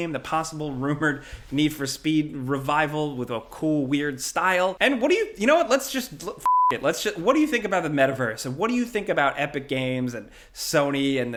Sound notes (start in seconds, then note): 6.4 beep